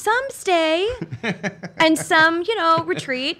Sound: laughing

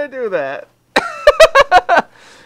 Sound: laughter

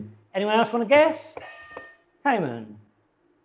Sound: buzzer dings

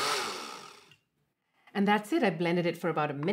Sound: blender stops

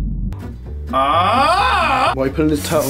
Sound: ahhhHHH

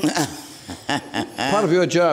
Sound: laughs

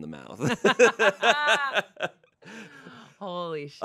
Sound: everyone laughs

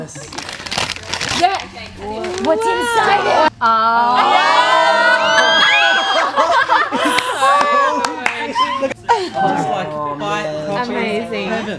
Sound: laughing

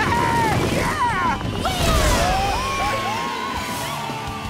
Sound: cheering

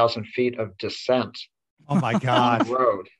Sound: laughs

